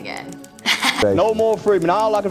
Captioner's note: chuckles